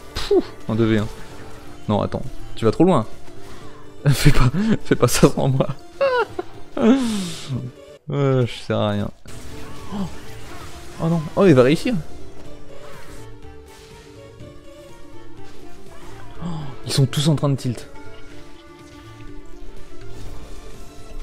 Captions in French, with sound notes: Pouh ! En 2v1... Nan attends, tu vas trop loin ! Fais pas ça devant moi *rire* Aah j'sers à rien Oh non ! Oh elle va réussir Aanh ! Ils sont tous en train de tilt